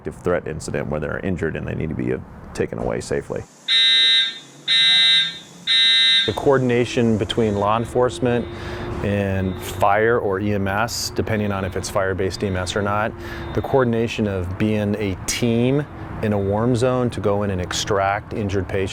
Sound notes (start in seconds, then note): 5.8 alarm buzzing